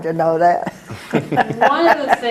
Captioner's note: laugh